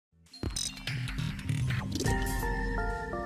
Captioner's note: mechanical sounds; chiming music